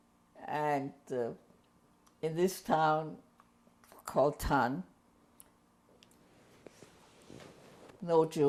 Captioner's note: pauses for 3 seconds